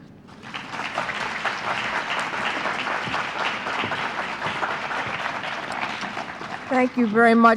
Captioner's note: applause